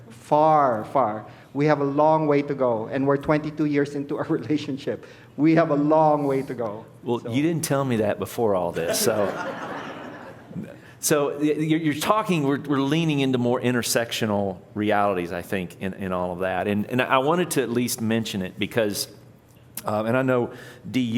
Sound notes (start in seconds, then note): 8.8 laughter